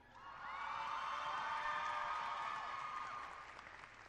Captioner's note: cheering